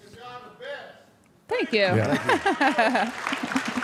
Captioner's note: laughs; audience applauding